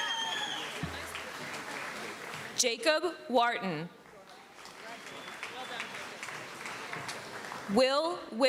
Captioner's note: applause